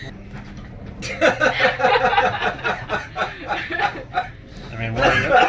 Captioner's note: laughing